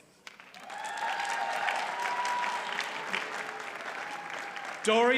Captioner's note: audience cheers and applauds